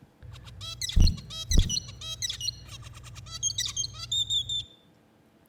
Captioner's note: bird singing